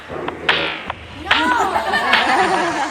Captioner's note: laughter